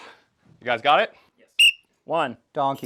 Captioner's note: whistle